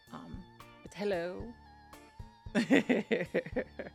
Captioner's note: laughs